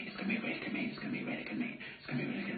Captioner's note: whisper